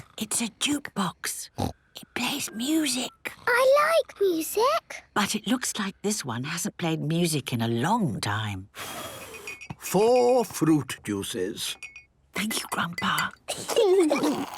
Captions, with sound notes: - (whispering) It's a jukebox! Snort! It plays music. - I like music! - But it looks like this one hasn't played music in a long time... (blows) - Four fruit juices. - (Granny whispering) Thank you, Grandpa! - (children giggling)